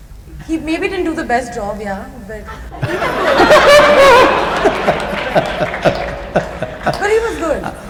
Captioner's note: laughter